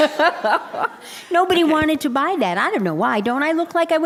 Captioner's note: laughter